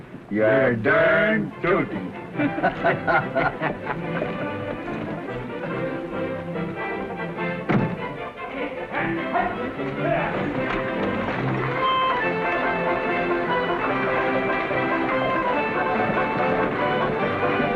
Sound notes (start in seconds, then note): 2.3 all laughs; 11.7 cheerful music